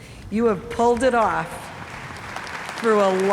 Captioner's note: audience applauds